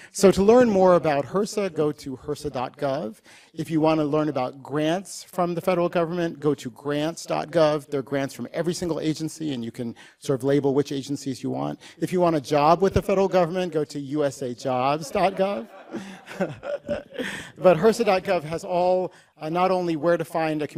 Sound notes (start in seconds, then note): 14.8 laughter